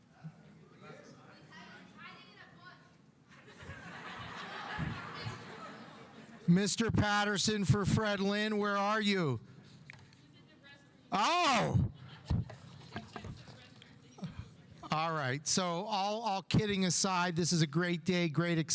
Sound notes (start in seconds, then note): 1.0 student mumbling; 3.4 audience laughing; 12.9 student mumbling